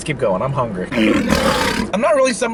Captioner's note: growling